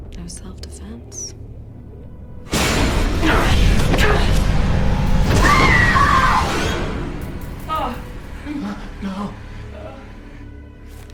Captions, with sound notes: It was self defense. (grunting) (screaming) (pleading)